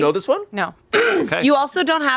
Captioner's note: clears throat